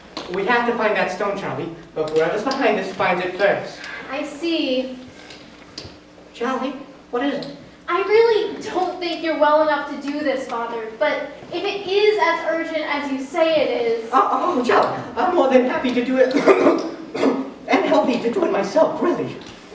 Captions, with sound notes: We have to find that stone, Charlie! Before whoever's behind this finds it first! - I see... Charlie, what is it? I really don't think you're well enough do this, father. But... if it IS as urgent as you say it is... - Oh! Charlie! I'm more than happy to do it- [coughing] I'm happy to do it myself, really!